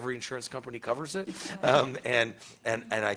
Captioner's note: attendees laughing